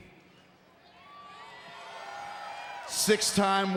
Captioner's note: crowd cheers